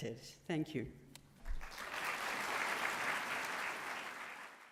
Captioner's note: applause